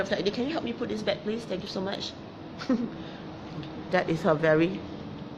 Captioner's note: chuckles